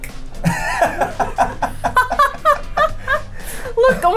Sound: laughs

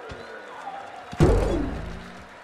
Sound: jump sound

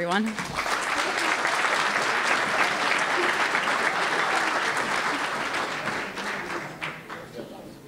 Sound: applause

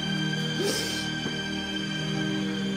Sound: sniffs

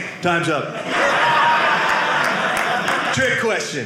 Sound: audience laughing

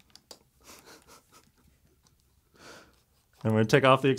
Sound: laughs

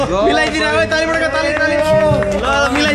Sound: sarcastic claps

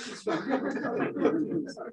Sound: laughter

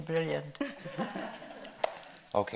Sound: audience laughing

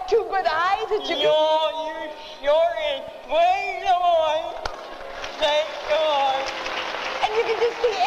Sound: audience applause

